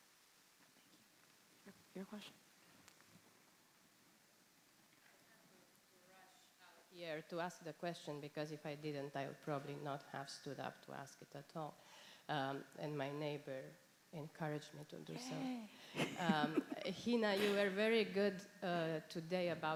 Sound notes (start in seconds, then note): 6.2 speaking faintly; 15.9 chuckling